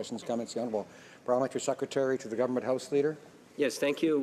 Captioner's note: speaking French